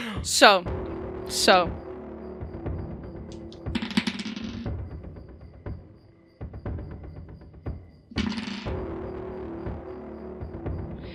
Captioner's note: laughing; even more ominous dice rolls